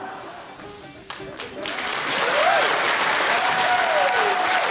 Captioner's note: cheering, applause